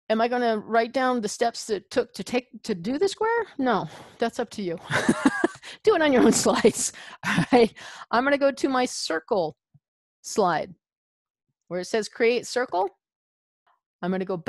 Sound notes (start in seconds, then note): 6.1 laughs